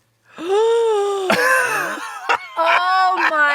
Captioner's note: gasps